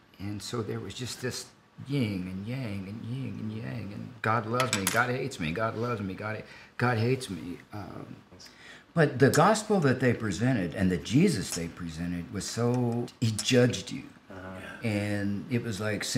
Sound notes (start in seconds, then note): none